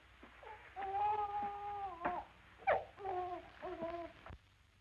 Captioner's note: baby wailing